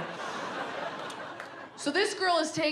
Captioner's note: audience laughs